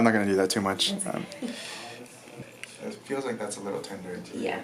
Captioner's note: laughs